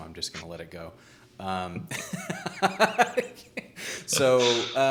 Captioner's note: laughing